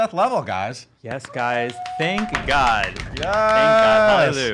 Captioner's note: cheering